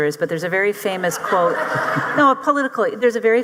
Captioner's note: audience laughing